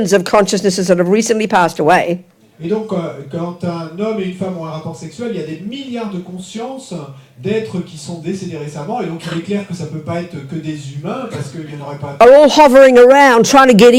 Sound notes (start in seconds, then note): 0.7 speaking in French; 3.7 speaking in French; 7.7 speaking in French